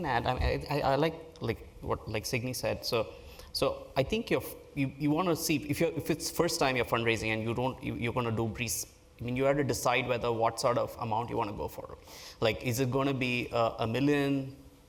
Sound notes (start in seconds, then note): none